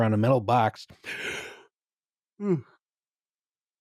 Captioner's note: yawns